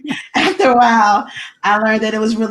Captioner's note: laughs